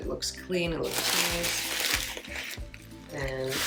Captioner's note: bag rustling